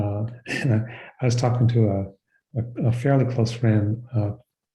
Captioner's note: chuckles